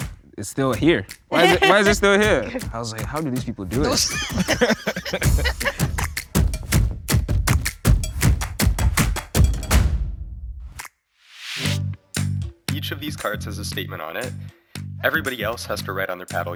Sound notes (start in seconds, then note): 1.3 laughs; 3.8 laughs; 5.5 upbeat drum beat